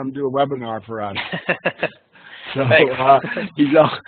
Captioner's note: laughing